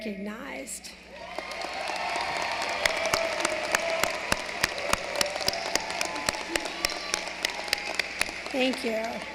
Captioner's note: applause